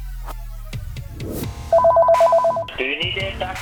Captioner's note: phone Ringing